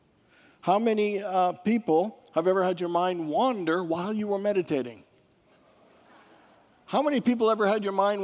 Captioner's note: congregants laugh